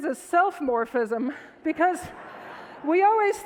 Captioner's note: audience laughs